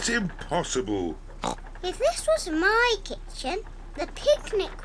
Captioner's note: oinks